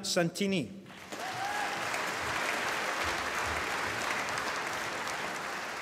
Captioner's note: applause